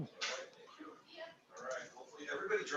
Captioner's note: board chattering